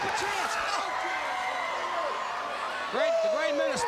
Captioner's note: crowd cheering